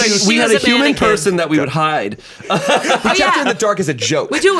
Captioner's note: laughs